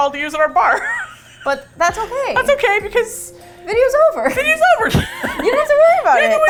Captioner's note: laughs; laughs